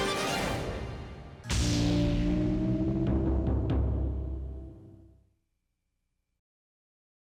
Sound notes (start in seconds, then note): 1.1 logo swooshing